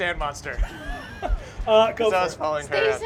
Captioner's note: laughter